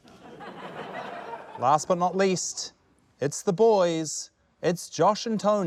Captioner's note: laughter